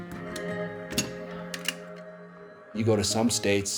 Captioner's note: clacking